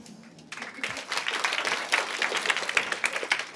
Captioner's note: applause